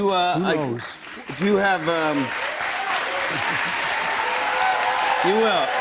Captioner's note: cheers and applause